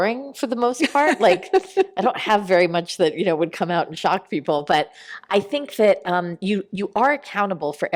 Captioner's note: laughter